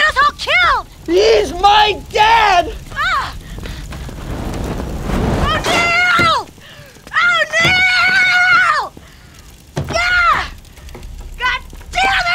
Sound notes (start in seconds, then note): 3.2 flames roar